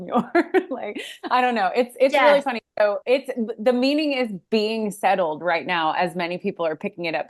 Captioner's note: laughs